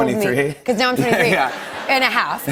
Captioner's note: laughter